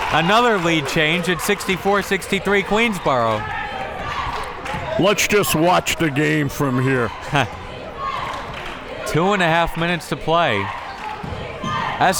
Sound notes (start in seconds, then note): 7.8 crowd members chanting